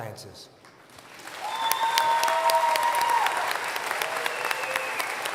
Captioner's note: applause